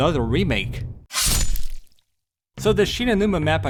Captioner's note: sword slashing sound effect